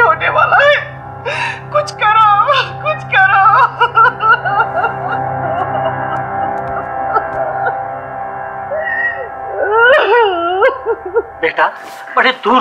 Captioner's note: crying and sobbing